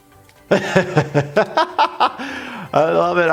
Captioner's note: laughing